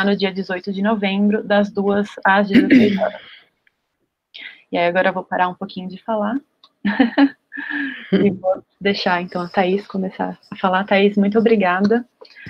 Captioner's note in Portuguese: risos